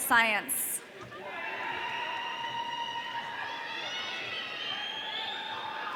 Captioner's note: audience cheering